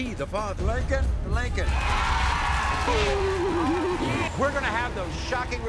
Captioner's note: audience cheers